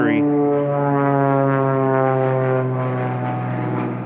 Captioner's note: airplane roaring